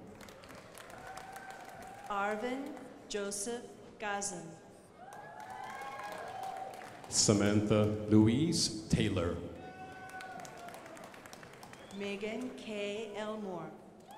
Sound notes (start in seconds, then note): 0.0 crowd applauding; 5.0 crowd applauding; 9.6 crowd applauding; 13.9 crowd applauding